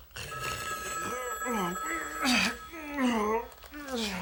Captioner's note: phone rings